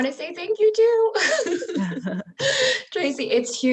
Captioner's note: laughs